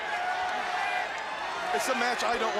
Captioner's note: crowd chatter